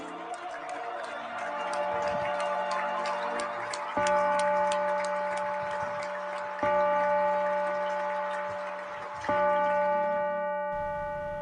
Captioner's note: bell